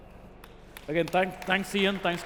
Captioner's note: applause